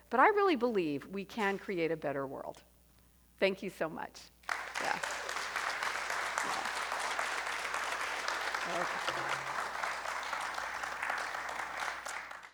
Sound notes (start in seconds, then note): 5.9 audience applauding